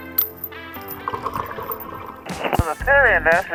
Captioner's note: chain scrapes; air bubbles pop